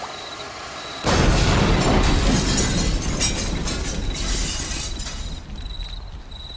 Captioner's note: explosion